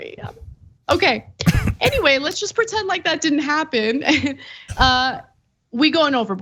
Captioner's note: laugh